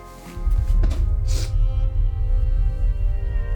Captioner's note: sniffles